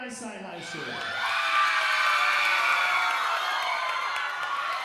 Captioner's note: audience cheering